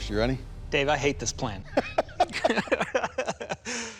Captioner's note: laughter